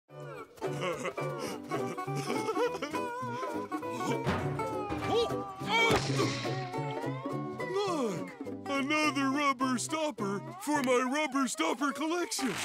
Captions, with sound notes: [laughing] [crashing] Look, another rubber stopper for my rubber stopper collection!